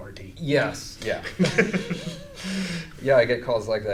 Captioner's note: laughing